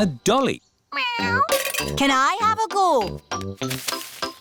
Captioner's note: meows